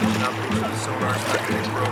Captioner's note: upbeat dramatic music; water sloshing